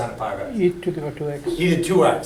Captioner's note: voiceover